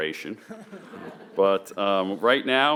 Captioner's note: attendees laughing